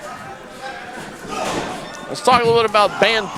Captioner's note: wrestlers yelling